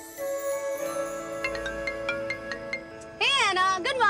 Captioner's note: Phone ringing